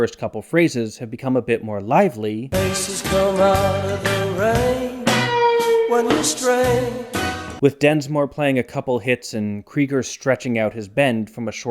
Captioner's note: bang